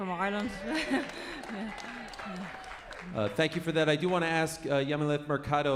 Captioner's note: applause